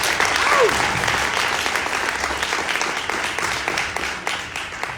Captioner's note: audience applauding